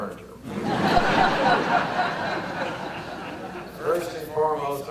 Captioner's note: audience laughter